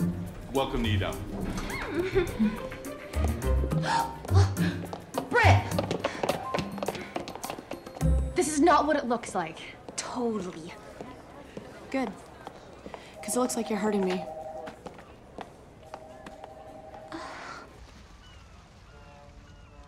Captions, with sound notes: Welcome to E-Dump. (giggles) (gasps) Look! Brit! - This is not what it looks like. - Totally. Good. 'Cause it looks like you're hurting me.